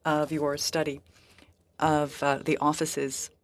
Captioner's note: speaking french